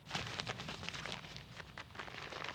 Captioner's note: crinkling